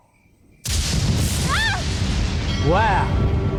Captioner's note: lightning sound